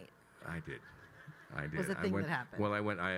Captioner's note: attendees laughing